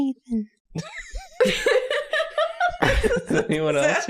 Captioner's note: giggling